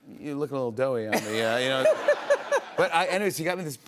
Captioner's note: laughter